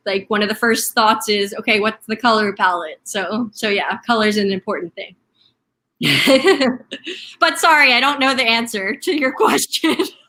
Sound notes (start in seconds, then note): 6.0 laughing